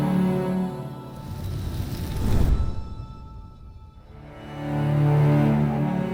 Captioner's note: flames roaring; soft music